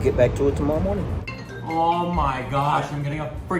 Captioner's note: phone ringing